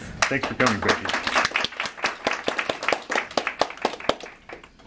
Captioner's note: audience applauding